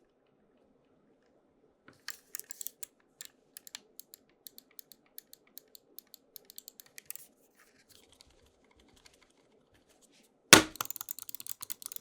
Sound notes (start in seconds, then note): 2.2 mouse clicks; 10.5 thumps; 10.6 mouse clicks